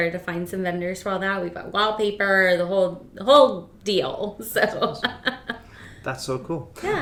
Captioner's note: laughs